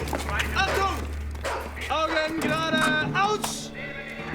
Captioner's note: speaking german